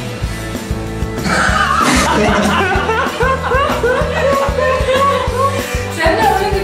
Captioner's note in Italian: risate fuori campo